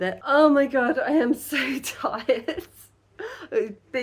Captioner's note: laughing